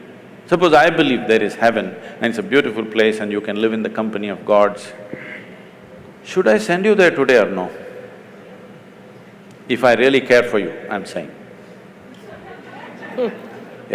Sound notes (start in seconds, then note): 12.1 laughter